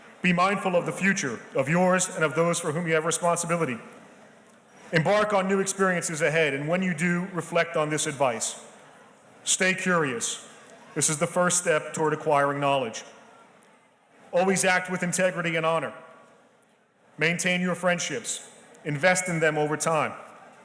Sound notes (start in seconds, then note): none